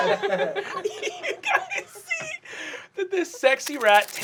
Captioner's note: laughing